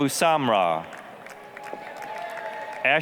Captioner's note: applause, cheering